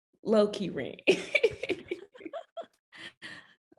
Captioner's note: all laughing